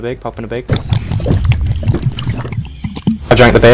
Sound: intense drinking

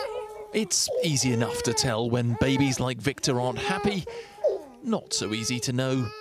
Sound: voice-over

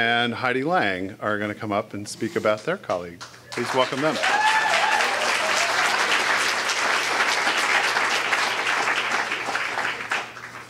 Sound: applause

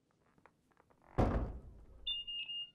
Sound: door thuds

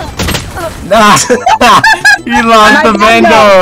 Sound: laughter

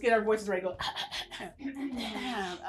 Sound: clearing throat

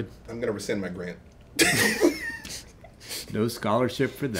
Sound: laughing

